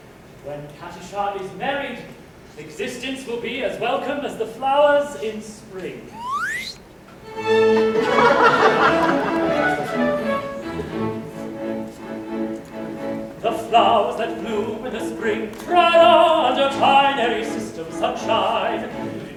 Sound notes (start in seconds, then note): 6.2 WOOOP of a flower growing; 7.5 laughter; 13.3 sings